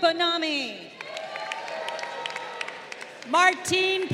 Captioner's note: crowd cheering